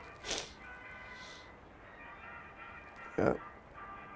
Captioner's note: sniffs